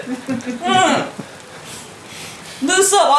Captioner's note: hmmm!